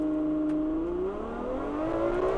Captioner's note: car revving high